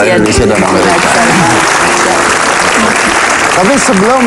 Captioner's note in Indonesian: tepuk tangan